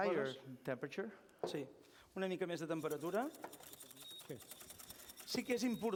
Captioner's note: non-english speech